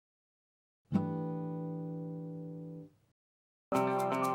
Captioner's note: chime sounds; upbeat music